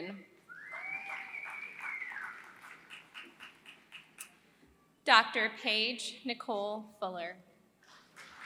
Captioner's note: applause; applause